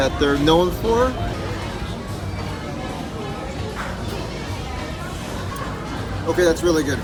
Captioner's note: ambient restaurant noise